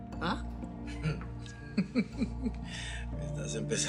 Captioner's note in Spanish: Risas